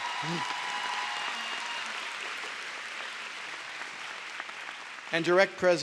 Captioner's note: applause